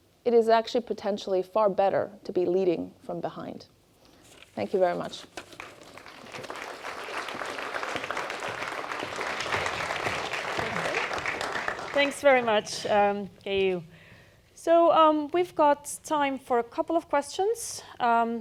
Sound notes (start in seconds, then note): 5.5 audience applauding